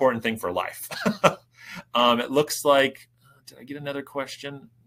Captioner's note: chuckling